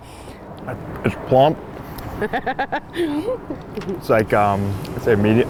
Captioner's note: laughs